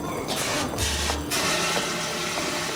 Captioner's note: toilet flush; water run